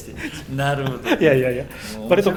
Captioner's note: laughs